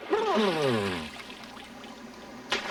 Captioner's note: gurgling